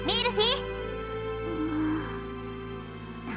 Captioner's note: zzzzz